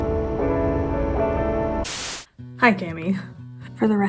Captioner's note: static